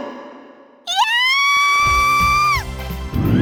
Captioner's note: panicked scream